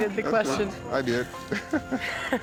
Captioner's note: laughs